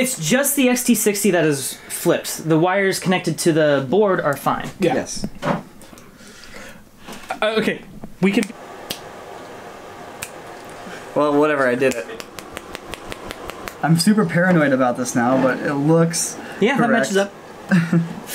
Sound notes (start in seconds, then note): 8.9 snap; 11.8 furious Snapping